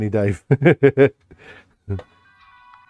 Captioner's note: laughs